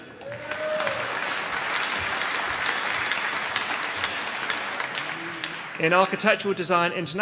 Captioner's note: applause